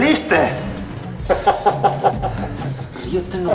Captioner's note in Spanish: risas